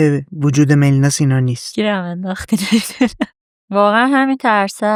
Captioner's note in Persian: خنده